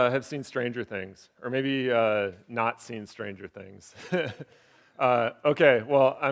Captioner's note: laughing